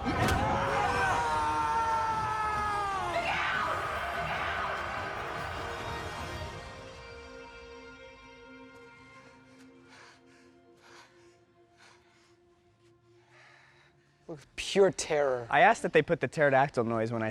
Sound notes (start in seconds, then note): 5.2 dramatic music; 10.8 heavy breathing